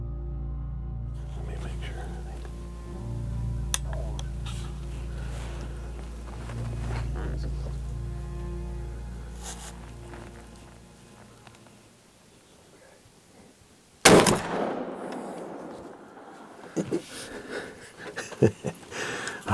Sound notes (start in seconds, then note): 3.5 rifle latch clicks; 5.4 slow tense music continues; 14.0 rifle fires; 16.0 laughs